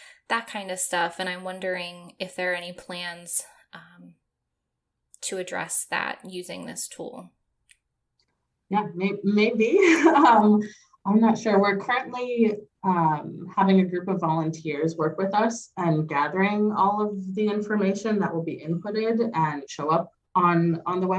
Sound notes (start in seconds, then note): 9.9 chuckle